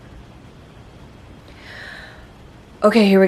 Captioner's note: deep breath